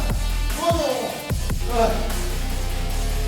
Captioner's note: sigh